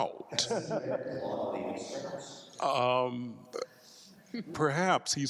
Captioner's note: faintly speaking